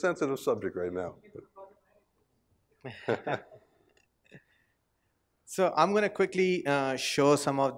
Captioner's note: laugh